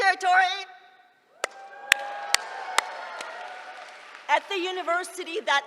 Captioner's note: cheering